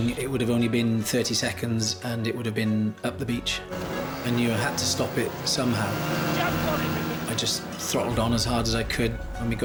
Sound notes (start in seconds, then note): 3.4 dramatic music; 5.3 boat engine revving; 6.2 dramatic music